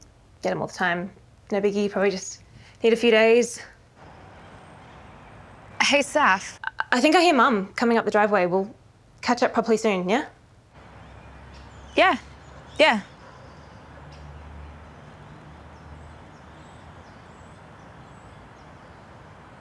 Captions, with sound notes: - Get 'em all the time. No biggie, probably just need a few days. - Hey Saff? - I think I hear mom, coming up the driveway. We'll catch up properly soon, yeah? - Yeah. Yeah. (birds chirping)